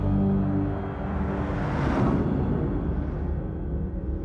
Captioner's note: logo whooshes